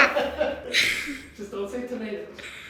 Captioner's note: laughing